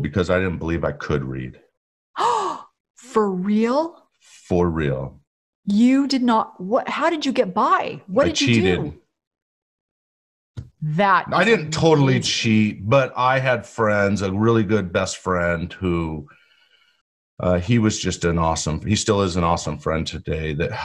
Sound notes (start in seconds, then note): 2.6 gasps